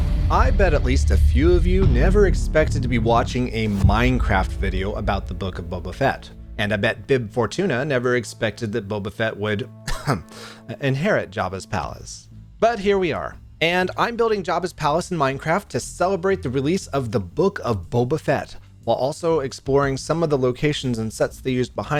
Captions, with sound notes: I bet at least a few of you never expected to be watching a Minecraft video about The Book of Boba Fett, and I bet Bib Fortuna never expected that Boba Fett would... *ahem* inherit Jabba's Palace. But here we are! I'm building Jabba's Palace in Minecraft to celebrate the release of The Book of Boba Fett while also exploring some of the locations and sets they used behind